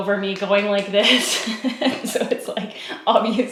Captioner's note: laughs